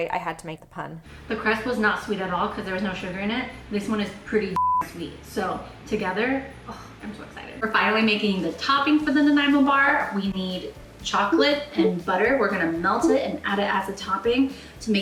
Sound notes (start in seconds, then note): 4.6 beep